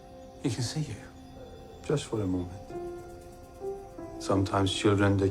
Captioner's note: crickets chirping